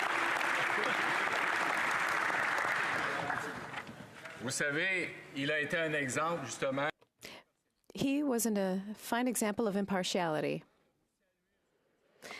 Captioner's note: applause